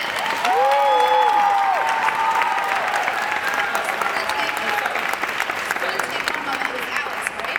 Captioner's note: woo! Hoo! Applause